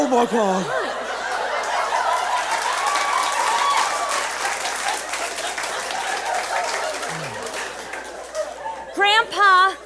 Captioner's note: audience cheers and applauds